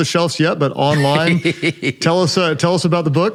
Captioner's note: laughs